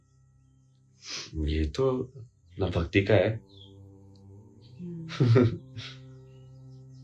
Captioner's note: नाक से की जाने वाली आवाज़